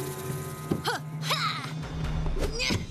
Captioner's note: grunts